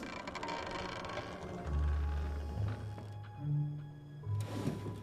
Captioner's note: door creaking